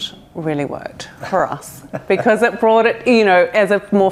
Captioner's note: laughs